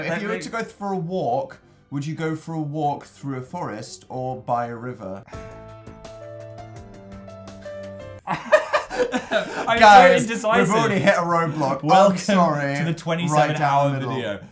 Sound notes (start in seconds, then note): 5.1 mysterious music plays; 8.2 both laugh; 8.4 sighs conflictedly